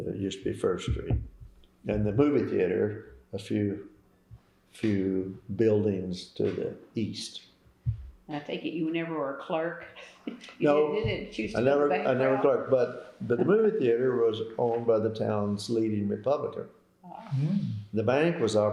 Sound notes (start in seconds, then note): 9.2 laughter